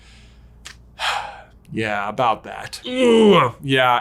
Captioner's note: sighs